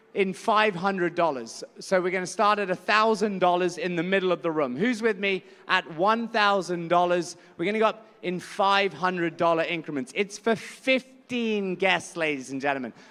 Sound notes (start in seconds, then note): none